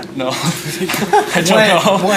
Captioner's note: laughter